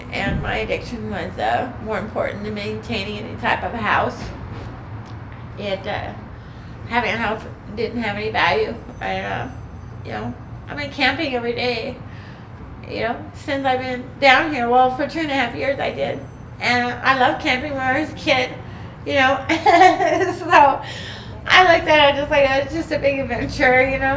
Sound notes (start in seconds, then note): 19.3 laughing